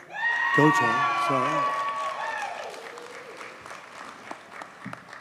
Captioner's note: audience cheers and applauds